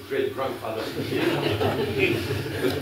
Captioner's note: laughter